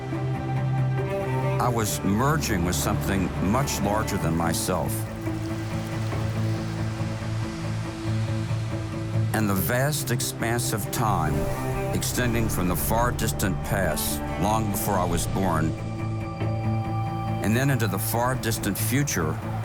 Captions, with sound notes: (uplifting music) I was merging with something much larger than myself. (rain pattering) (uplifting music) And the vast expanse of time extending from the far distant past, long before I was born and then into the far distant future